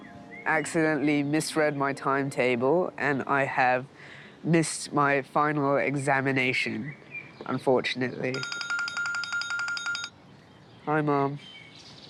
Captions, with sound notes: I've accidentally misread my timetable and I have missed my final examination ...unfortunately. (Phone rings) Hi mum